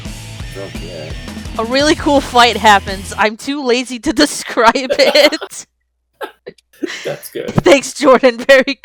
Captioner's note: laughs; chuckles